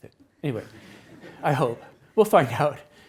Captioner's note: attendees laughs